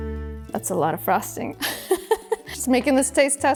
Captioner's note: laughs